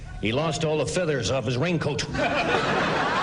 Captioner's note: laughter